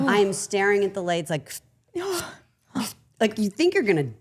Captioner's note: sipping